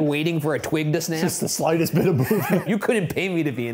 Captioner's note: chuckles